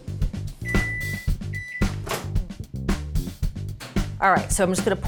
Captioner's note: microwave beeps